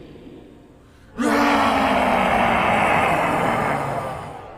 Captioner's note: roaring